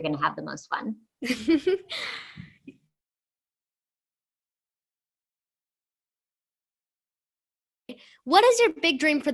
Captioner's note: laughter